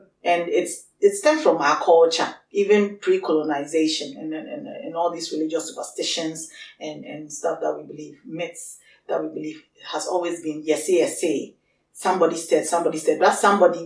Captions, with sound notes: and it stems from our culture even pre-colonisation and all these religious superstitions and stuff that we believe myths that we believe has always been Yɛsee Yɛsee (speaks Twi) somebody said somebody said that somebody